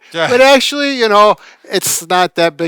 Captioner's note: laughs